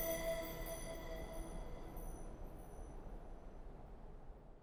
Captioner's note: tinkling music; wind whooshing